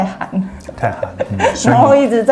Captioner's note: laughing